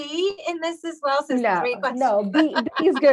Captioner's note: laughs